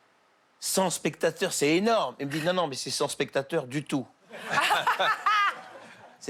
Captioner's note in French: rires